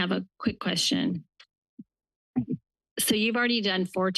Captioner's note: pause